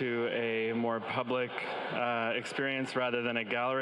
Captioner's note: crowd chattering